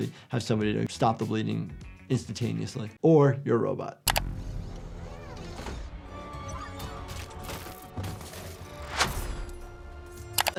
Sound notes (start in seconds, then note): 4.2 eerie music; 4.2 electronic beeping